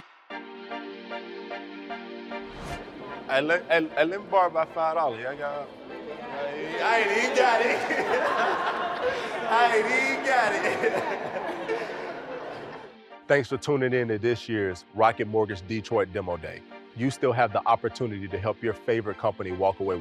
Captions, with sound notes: (upbeat music) - Let me borrow that $5-- - He got it. (laughing) - He got it. Thanks for tuning in to this year's Rocket Mortgage Detroit Demo Day. You still have the opportunity to help your favorite company walk away